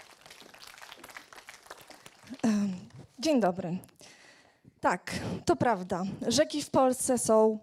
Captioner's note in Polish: Aplauz